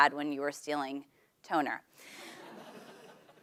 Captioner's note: laugh